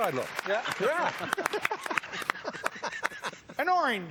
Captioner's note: laughs